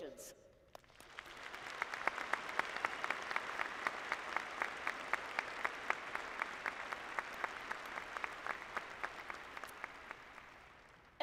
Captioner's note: applause